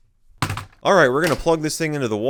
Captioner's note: clunk